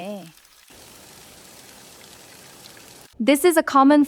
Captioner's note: the sound of the rain is getting louder